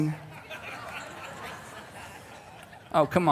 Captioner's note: congregation laughing